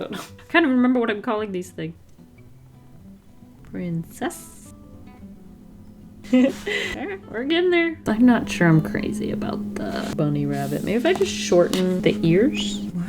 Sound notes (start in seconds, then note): 6.2 giggle